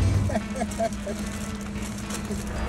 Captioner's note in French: rire